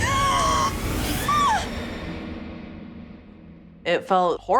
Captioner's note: screams